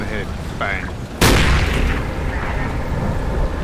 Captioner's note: gunshot